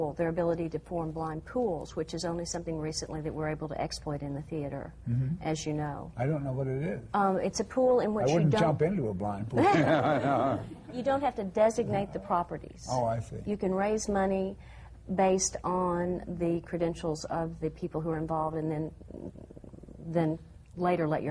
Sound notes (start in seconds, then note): 9.6 laughter